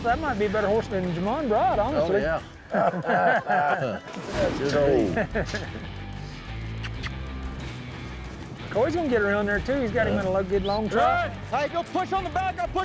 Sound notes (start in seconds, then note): 2.6 all laughing; 4.7 makes kiss sound